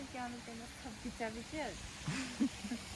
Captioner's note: laughs